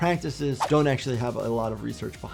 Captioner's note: video whooshes